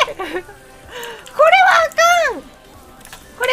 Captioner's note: Laugh